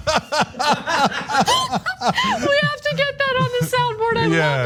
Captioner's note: laugh